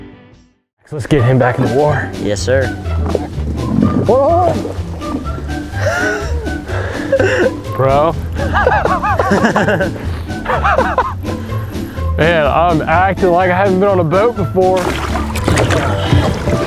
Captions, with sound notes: - Let's get him back in the water. Yes, sir. Bro (laughing) - I'm acting like I haven't been on a boat before.